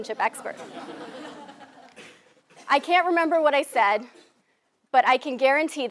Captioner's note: laugh